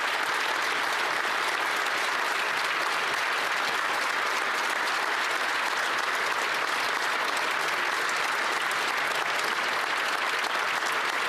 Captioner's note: some Applause